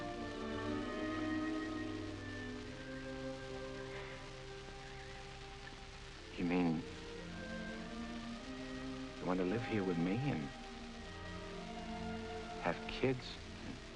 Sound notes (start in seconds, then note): 3.1 birds chirping; 5.0 gentle music